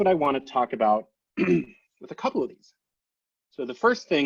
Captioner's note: clears throat